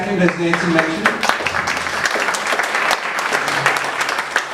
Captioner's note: audience applauds